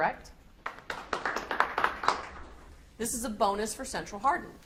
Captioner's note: audience applauds